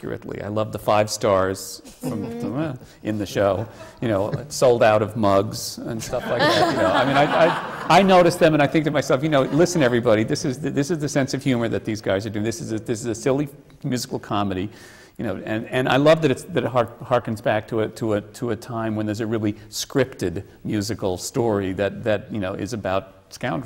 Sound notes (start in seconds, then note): 6.0 laughter